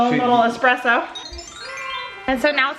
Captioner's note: magic bells